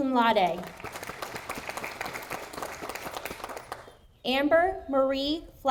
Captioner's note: audience applauding